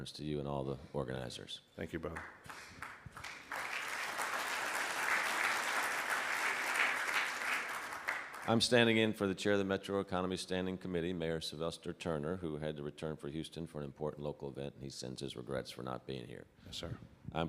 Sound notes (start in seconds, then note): 2.1 clapping